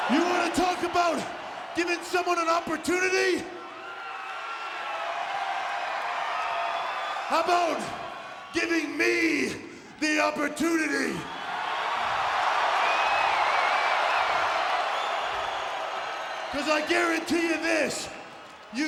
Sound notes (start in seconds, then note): 11.5 audience cheers